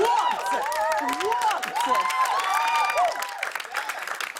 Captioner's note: cheers and applause